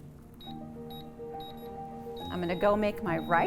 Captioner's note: machine beeping